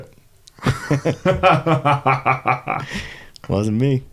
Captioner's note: laughing